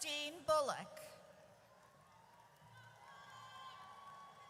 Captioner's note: audience cheers